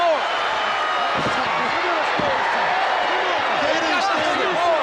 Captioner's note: crowd cheering